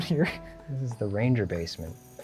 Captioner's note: laughs